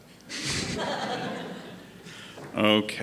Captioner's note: audience chuckling